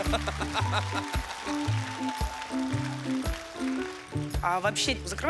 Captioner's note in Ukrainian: оплески